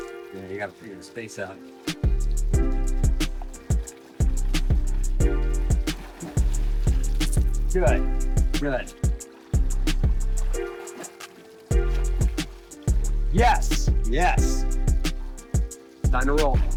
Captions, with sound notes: Yeah, you got to figure the space out. [WATER SOUNDS] Good. Good. Yes. Yes. Time to roll.